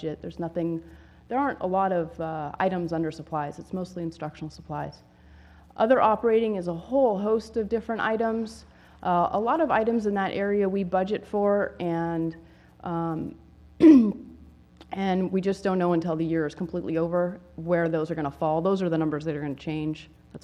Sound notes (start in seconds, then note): 13.8 cough